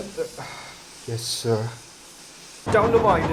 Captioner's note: sighs